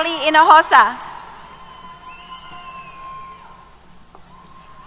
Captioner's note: cheers